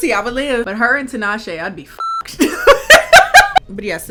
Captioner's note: beep; laughing